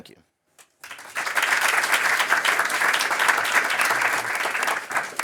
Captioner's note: applause